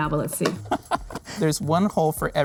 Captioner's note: laughing